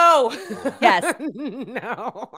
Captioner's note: laughs